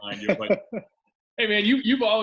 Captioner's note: laughs